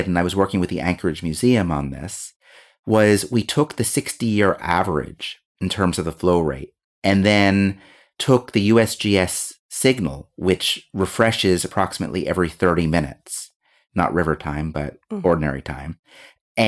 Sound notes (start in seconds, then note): none